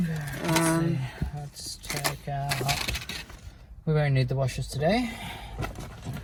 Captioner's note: much clattering